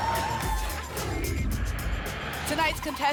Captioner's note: whoosh